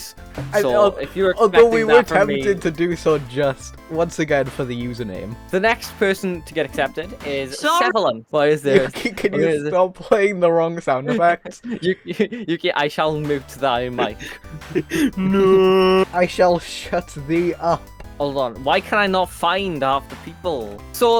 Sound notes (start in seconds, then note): 13.8 laughs